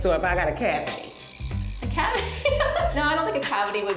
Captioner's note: laughs